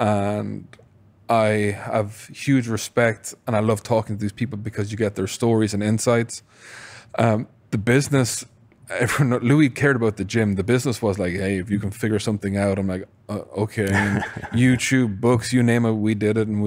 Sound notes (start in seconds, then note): 13.8 laughs